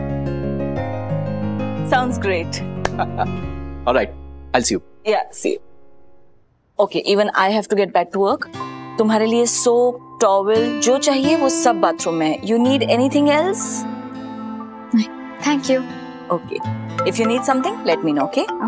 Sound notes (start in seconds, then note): 0.0 happy music; 2.8 laughing